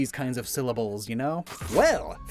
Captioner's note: glitch SFX